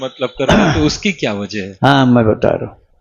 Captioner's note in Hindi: गला साफ़ करने की आवाज़